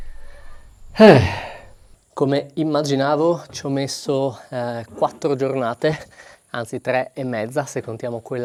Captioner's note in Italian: sbuffare